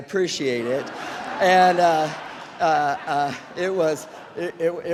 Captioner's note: audience laughs